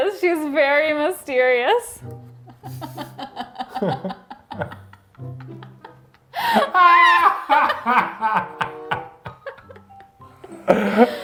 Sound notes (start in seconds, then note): 2.0 whimsical music; 2.5 both laugh